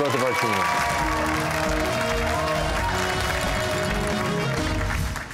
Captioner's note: cheers and applause